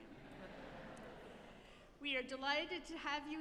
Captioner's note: audience laughing